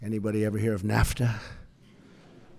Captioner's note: laughter